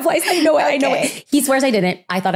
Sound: laughing

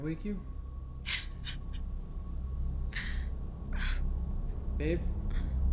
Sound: low Sobbing

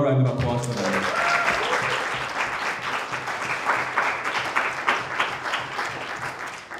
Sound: crowd applauding; crowd cheering

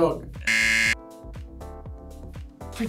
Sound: buzzer rings

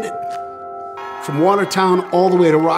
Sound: people cheering

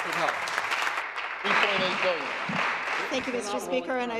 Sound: applause

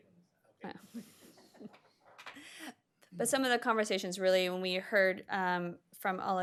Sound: laughter

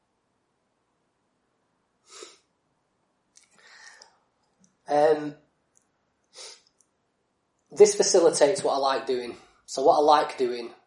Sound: silence

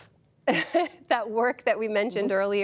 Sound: laughter

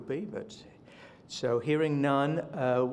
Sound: silence

